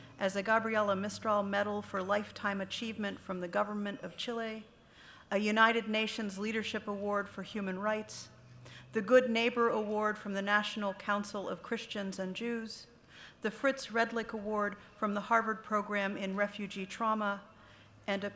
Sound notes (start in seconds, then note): none